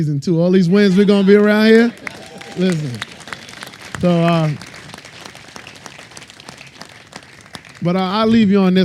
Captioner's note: applause